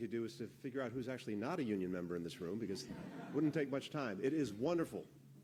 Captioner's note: laughter